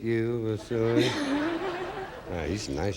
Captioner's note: audience laughing